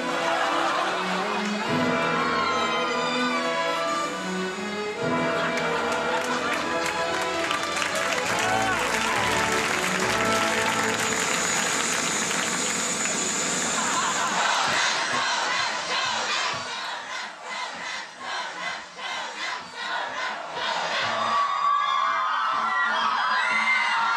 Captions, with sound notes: (audience applauds) (audience cheering) [Crowd] Conan, Conan, Conan, Conan, Conan, Conan, Conan, Conan, Conan, Conan! (crowd cheering)